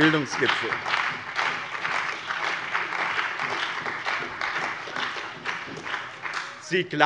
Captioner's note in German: Beifall bei dem BÜNDNIS 90/DIE GRÜNEN und der CDU